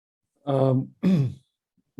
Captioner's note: coughs